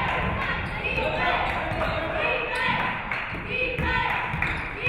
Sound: audience cheering

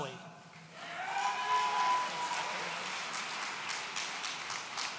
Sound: audience cheering

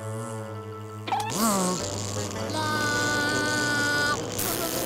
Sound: grunting

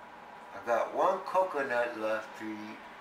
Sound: none

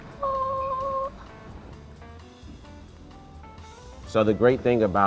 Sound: mimics harmonic chime

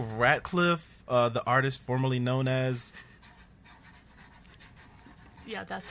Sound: scribbling

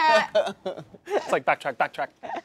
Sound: all laughing

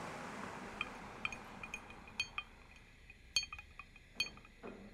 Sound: glass clicking

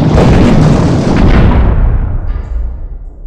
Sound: boulder Crash

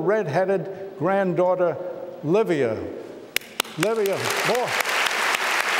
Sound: applause

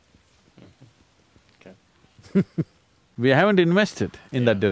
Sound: laughs

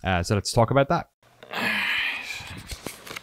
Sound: sigh

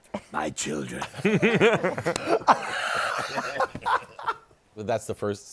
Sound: laughter

